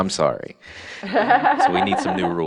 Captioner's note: laughs